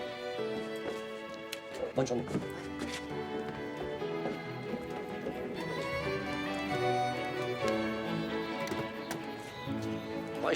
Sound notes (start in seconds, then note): 2.3 Rene speaks French; 2.3 footsteps shuffle; 9.2 door opens